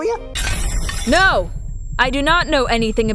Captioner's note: Sound-of-a-Triggering-So-Bad-that- Lancelot-May-Have-Freaked-Out-a-Bit